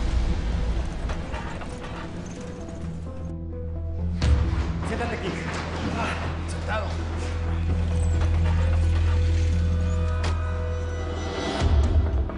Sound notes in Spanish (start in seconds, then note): 5.4 Quejidos